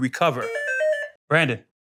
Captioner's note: buzzer